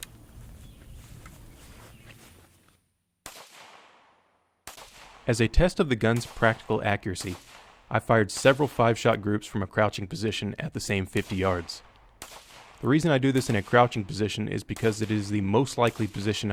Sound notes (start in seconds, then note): 3.2 gunfire